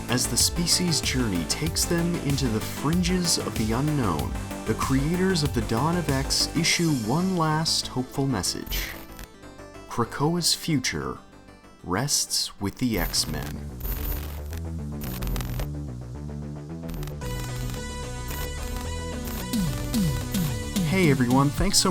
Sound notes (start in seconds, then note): 12.9 static; 16.5 upbeat techno music